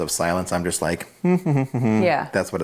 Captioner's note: hums